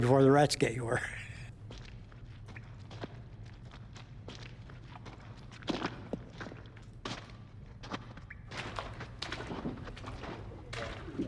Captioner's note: footsteps